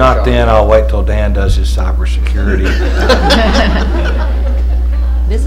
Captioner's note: laughter